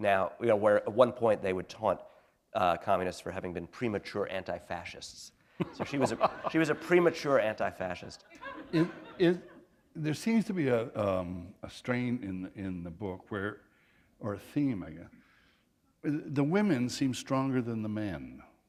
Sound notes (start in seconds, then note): 5.6 laughter